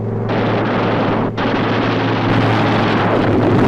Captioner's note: guns firing